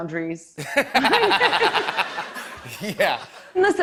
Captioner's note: laughter